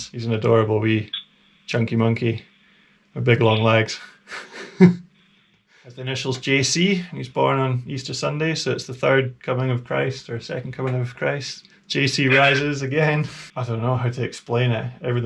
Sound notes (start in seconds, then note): 3.4 laughing